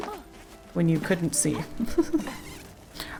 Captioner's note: laughs